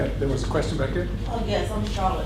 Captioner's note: voiceover